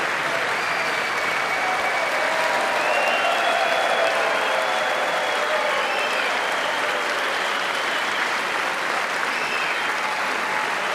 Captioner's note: applause